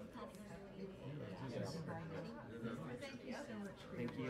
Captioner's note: low chatter